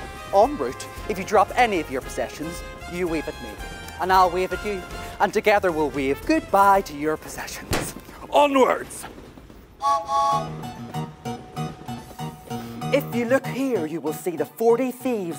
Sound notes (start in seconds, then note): 9.8 train chugging; 9.8 train horn tooting